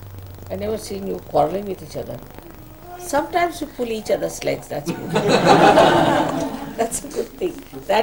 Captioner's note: laughter